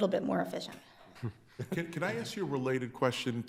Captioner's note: chuckling